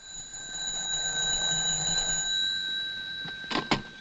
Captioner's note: phone ringing